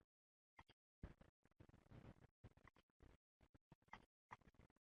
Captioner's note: clicking